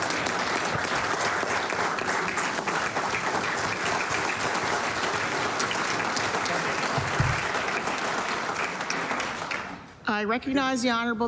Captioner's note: applause